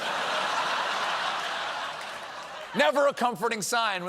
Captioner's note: laughter